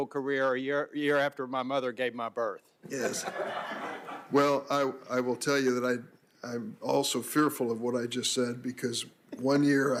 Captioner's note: laughter